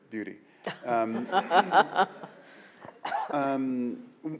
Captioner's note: laughing